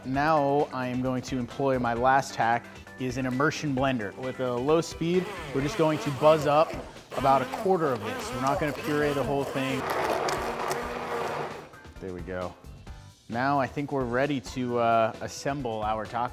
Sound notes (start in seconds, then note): 10.2 blender whirring